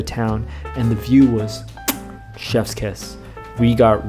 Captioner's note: kiss